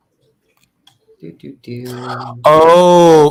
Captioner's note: humming